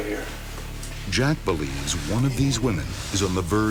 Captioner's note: voiceover